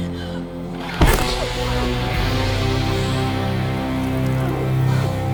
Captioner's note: head smacking; dramatic music